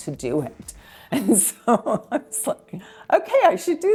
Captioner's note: laughing